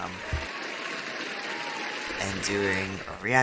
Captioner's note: applause